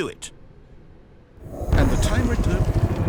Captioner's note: computer shuts down